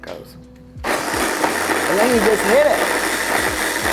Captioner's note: blender whirring